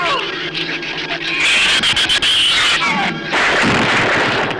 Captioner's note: shrews screech; gun fires